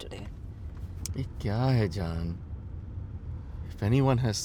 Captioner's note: in Hindi